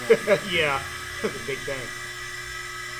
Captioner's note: laughs